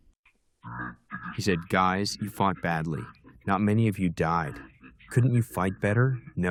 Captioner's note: through translator